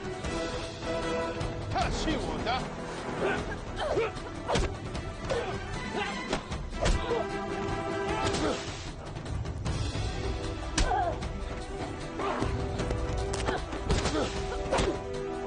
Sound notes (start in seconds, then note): 1.4 grunting; 1.4 speaking Mandarin